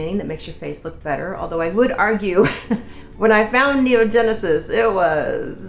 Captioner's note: laughing